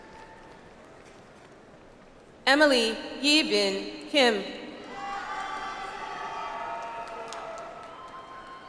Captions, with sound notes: Emily Yebin Kim. (audience applauds)